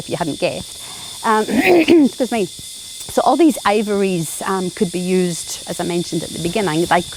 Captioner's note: clears throat